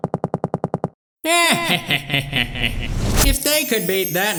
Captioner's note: dimentio laughs